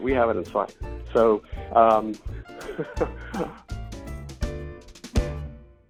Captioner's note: chuckles